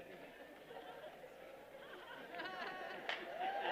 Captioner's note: cheering